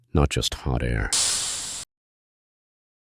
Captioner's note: steam hisses